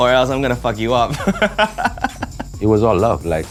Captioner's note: laughs